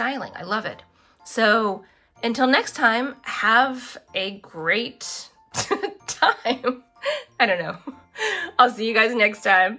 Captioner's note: laughs